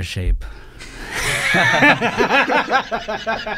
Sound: laughing

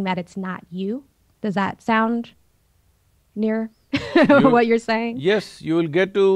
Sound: laughs

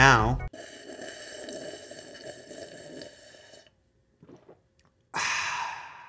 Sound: slurping loudly; music stops

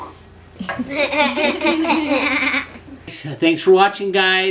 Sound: laughs

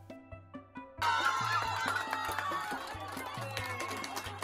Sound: crowd cheering

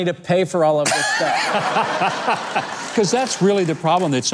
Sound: audience laughing

